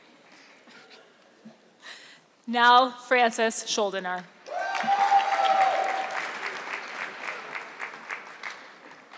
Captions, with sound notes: Nell Francis Shuldener. (audience clapping)